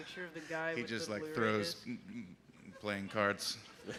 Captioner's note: laughter